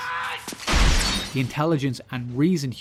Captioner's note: smash